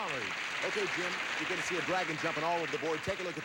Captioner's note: audience applauding